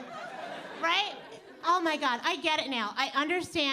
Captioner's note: audience laughing